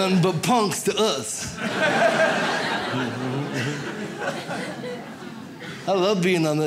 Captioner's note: audience laughs